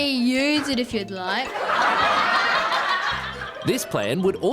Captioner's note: laughter